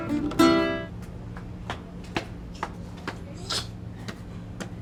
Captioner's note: footsteps pattering